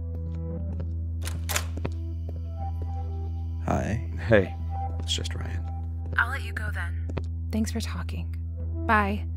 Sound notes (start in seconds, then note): 1.2 door opens